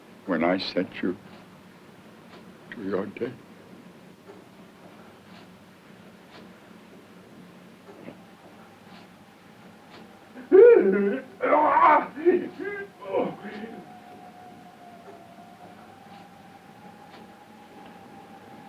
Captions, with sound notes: when I send you to your death. (Paul shrieking) (suspenseful music)